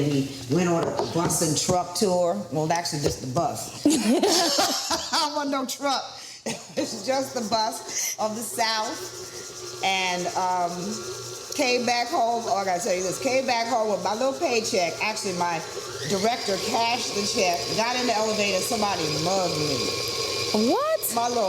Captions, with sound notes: and we went on a bus-and-truck tour. Well, actually, just a bus. (both laughing) Wasn't no truck. It's just a bus of the South and came back home. Oh, I gotta tell you this. Came back home with my little paycheck. Actually, my director cashed the check. Got in the elevator. Somebody mugged me. - What?